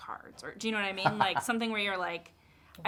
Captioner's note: Armando laughs